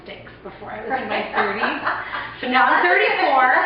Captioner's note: laughing